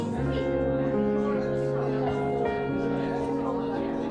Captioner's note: lively chatter